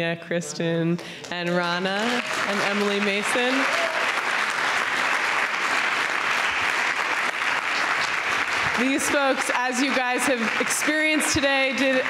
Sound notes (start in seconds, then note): 4.0 audience clapping